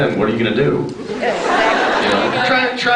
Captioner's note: laughs